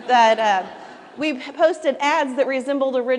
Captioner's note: laughter